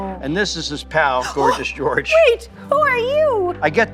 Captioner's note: gasps